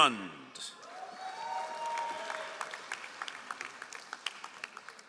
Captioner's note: all applauding